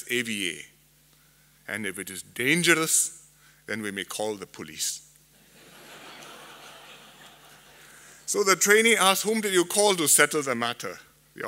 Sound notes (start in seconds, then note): 5.4 laughter